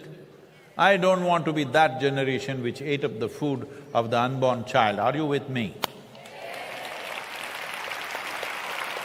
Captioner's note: cheering/Applause